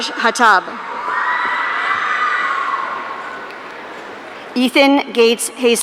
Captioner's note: audience cheering